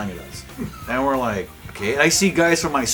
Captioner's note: laughing